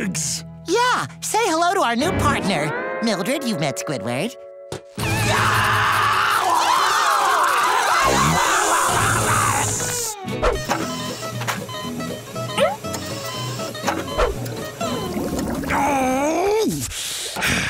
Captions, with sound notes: Yeah. Say hello to our new partner. Mildred, you've met Squidward. [screaming] [beeping] [groaning]